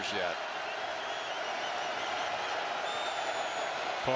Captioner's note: crowd cheering